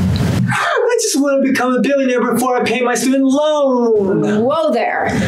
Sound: gasping

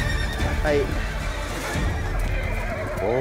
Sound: horse neighs wildly

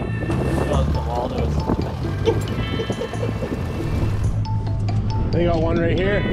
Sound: laughs

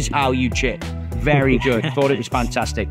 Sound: chuckles

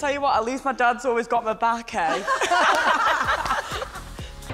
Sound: laughing

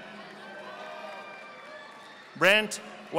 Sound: audience applauding

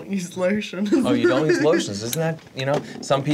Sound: laughs

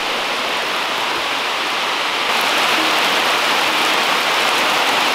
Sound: pounding raindrops

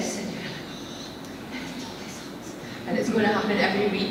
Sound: whispers

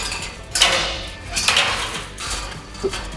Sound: banging

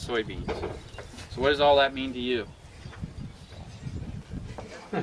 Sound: crowd laughing

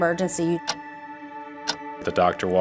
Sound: clock ticking

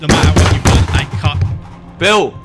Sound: noises of hitting

